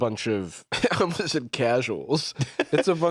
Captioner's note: laughs